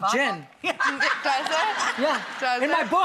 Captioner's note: audience laughs